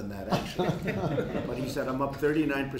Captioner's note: laughter